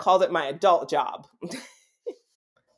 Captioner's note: giggle